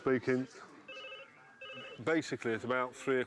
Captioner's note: phone ringing